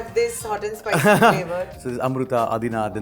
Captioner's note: laughing